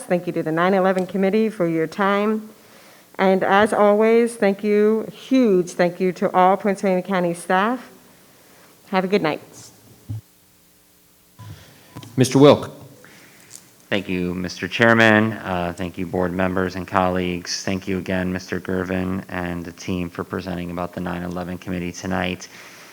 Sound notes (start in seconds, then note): 11.3 microphone beeping; 11.4 microphone clattering